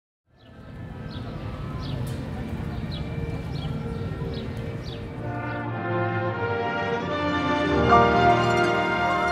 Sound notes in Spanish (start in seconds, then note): 0.3 Pajaros